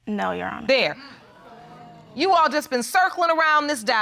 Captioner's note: audience exclaiming